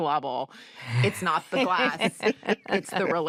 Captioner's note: laughter